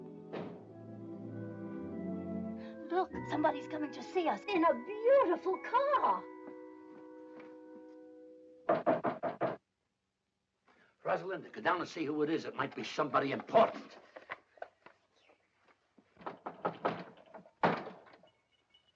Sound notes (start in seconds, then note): 0.1 car door closes; 8.6 knocking on door; 16.2 knocking on door; 18.7 faint bells jingling